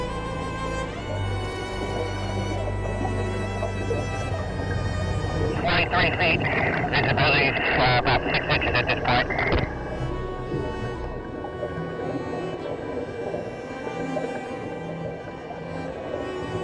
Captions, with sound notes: - [Voice Over Radio] Twenty-three feet. Visibility is about six inches at this part. (somber orchestral music)